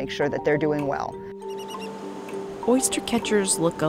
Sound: bird squeaks

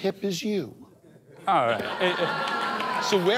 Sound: laughs; audience laughs

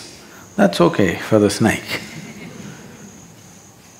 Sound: few laugh

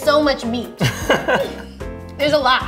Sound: laughing

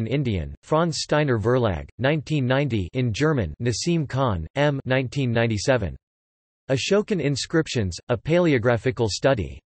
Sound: in German

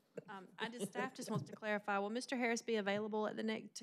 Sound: laughter

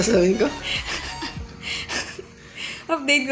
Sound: laughs

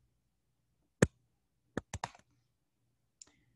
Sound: typing

